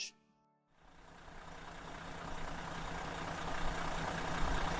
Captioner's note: engine running